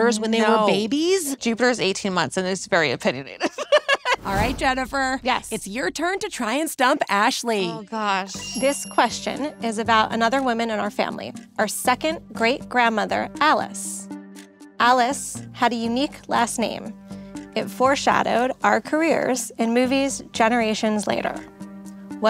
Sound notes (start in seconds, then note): 3.4 laughs